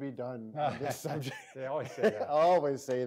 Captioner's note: both laughing